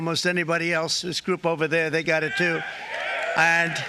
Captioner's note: applause